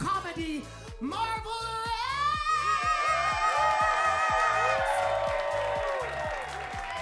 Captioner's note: audience cheering